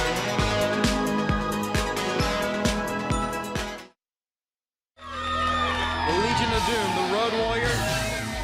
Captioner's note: crowd cheering